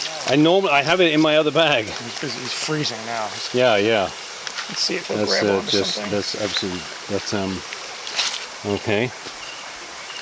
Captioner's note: mumbling chatter